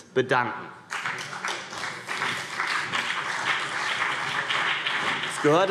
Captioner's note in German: Beifall CDU und BÜNDNIS 90/DIE GRÜNEN